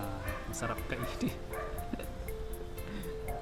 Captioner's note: chuckles